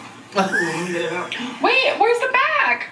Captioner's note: laughing